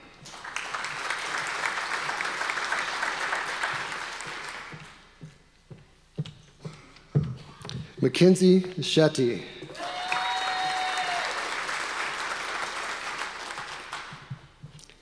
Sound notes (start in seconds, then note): 0.2 audience applause; 9.7 audience applause